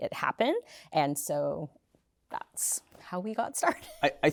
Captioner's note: laughter